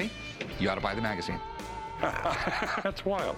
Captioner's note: laughs